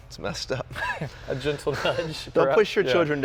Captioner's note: laughs